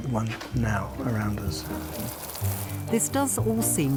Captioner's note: water hissing